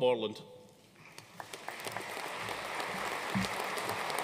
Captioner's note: audience applauding